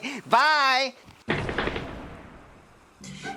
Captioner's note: snickers; thunder